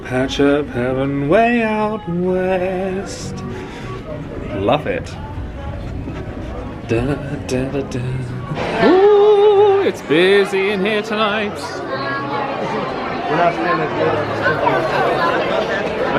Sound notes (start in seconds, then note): 5.6 hums